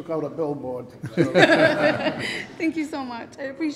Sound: laughter

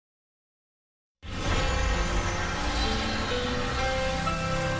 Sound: grand chime plays

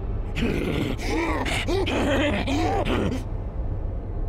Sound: more laughing

